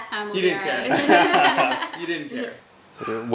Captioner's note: laughter